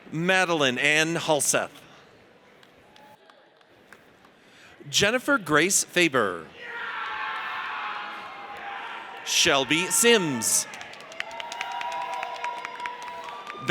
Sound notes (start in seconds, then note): 6.7 audience cheers; 9.4 audience applauds